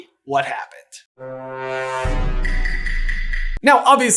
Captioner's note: Undertaker bell